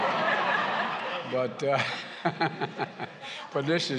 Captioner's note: laughter